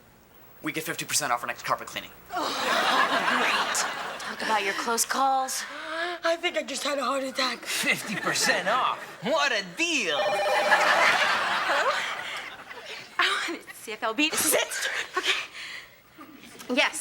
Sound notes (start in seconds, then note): 2.4 audience laughing; 10.1 phone ringing; 10.2 audience laughing